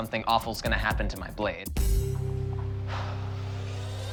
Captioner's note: sighs